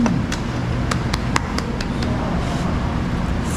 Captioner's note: the taste of applause